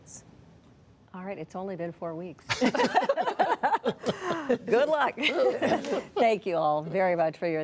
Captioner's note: laughter